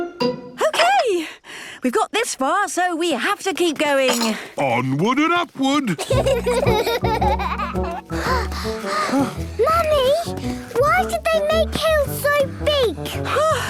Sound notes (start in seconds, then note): 6.0 children giggling; 8.4 panting